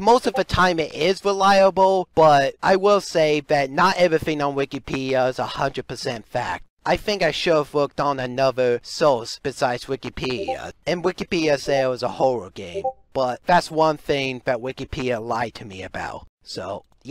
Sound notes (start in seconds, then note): 0.2 Discord ping; 10.3 Discord ping; 12.7 Discord ping